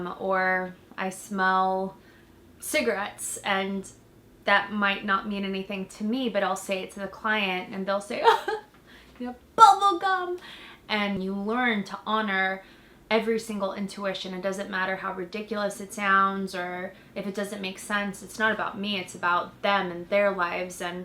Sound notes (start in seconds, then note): 8.2 sobs